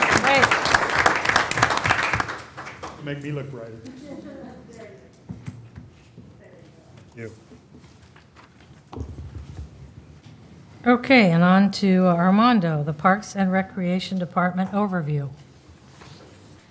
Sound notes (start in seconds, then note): 11.4 applause